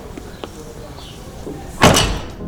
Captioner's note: door clicks open; door clicks shut; classical music